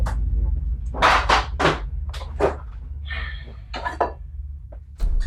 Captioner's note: drawers clatter